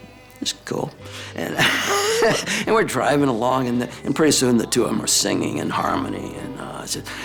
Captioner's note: laugh